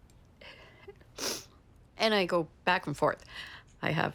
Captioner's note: sniffs